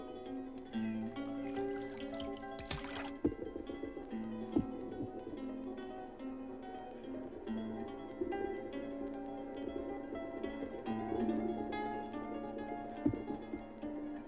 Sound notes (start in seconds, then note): 1.2 water splashes; 2.8 water bubbles; 4.1 branch thuds; 12.5 log thuds